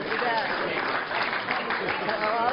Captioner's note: applause